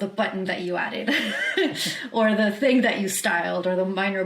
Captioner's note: chuckles